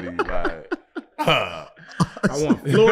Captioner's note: laughing